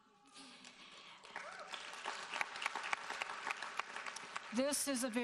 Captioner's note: audience applauding